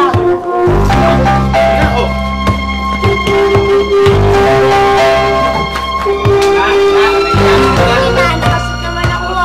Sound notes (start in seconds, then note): 1.2 chuckles; 2.8 ball bouncing, thuds